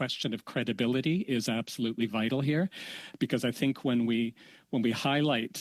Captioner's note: speaking French